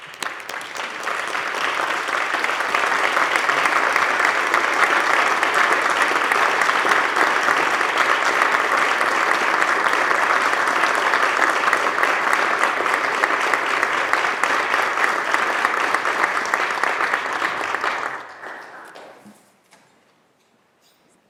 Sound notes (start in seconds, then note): 3.2 applause